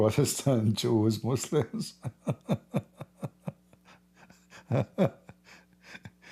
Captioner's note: Ketawa